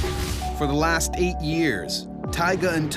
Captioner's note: voiceover